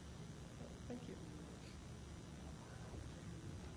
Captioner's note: voiceover